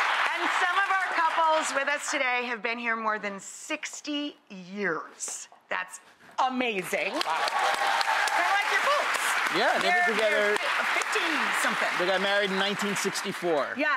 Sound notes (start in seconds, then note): 7.1 crowd cheering